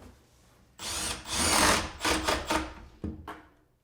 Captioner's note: drill whirring